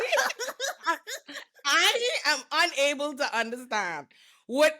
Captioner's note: laughing